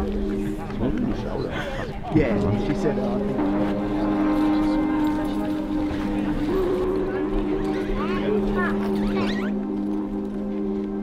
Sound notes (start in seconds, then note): 0.8 people chattering